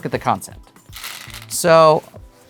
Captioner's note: stones rattling